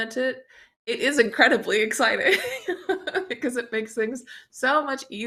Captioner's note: chuckles